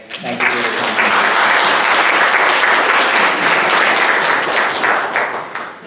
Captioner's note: audience applauding